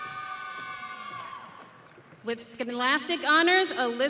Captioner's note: audience cheering